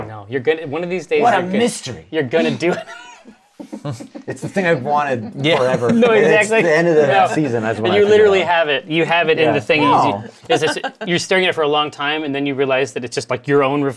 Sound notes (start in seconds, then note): 2.4 laughs